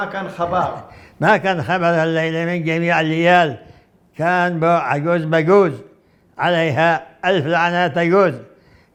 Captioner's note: reciting in Arabic